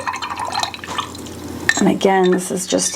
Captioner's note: water splashing